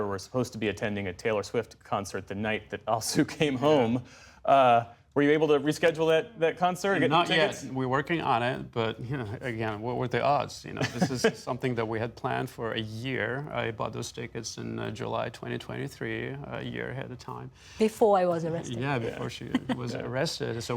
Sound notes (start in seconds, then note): 10.8 laughter